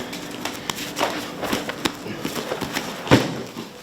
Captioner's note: fists bumps; thudding